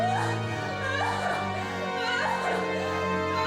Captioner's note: crying